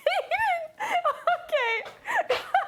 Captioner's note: laughing